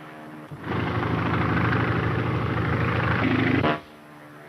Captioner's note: plane engine rumbling; plane engine whining